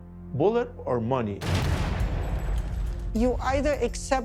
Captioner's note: gunfire